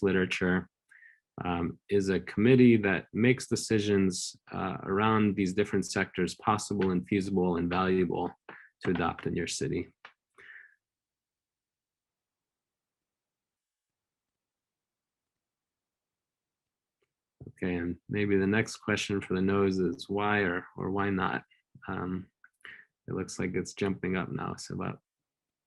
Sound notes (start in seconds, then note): 11.6 brief silence